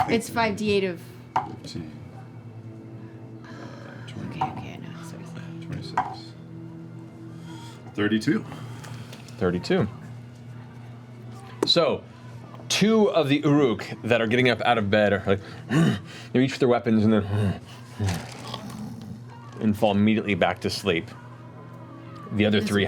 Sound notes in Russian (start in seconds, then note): 15.6 хрипят; 18.0 кряхтят, а потом храпят